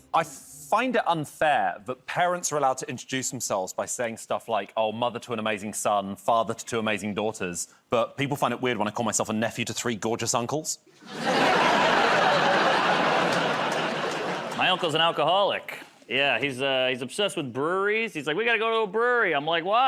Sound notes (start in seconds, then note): 12.9 laughter